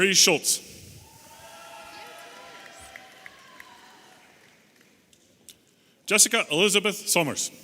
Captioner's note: audience applauding and cheering